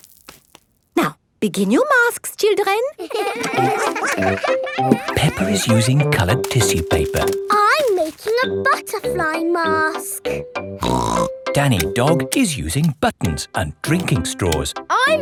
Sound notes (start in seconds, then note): 3.0 all giggling; 10.8 snorts